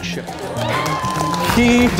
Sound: audience applauding

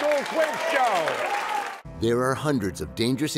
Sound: cheers and applause

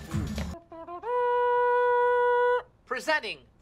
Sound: mouth trumpet noise going ‘do do do dooooo’

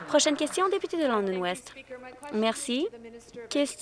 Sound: some Applause

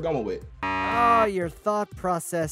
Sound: buzzer beeps

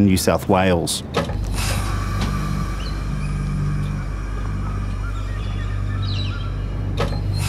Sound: freight train rumbling

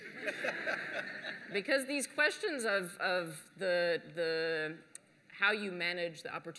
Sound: laughter

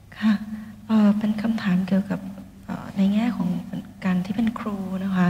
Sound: sister reads in Thai

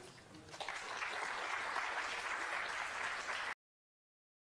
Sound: applause

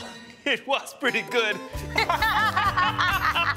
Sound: both laugh

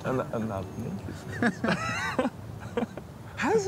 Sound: people laughing

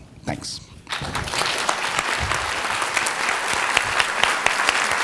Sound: audience applauding

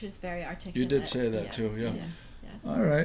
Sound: voiceover

